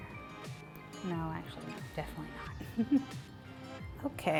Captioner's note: chuckles